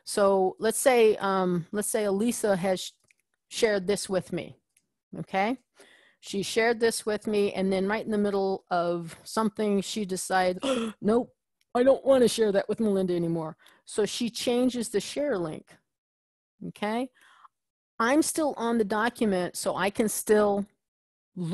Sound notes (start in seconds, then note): 10.6 gasps